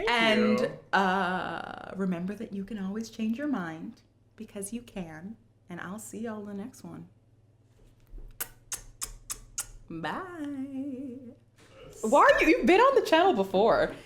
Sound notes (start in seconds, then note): 8.3 kisses